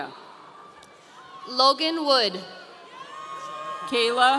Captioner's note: audience cheering